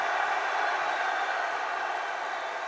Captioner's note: applause